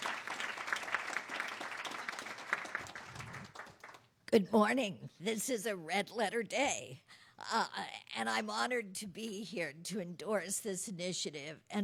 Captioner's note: applause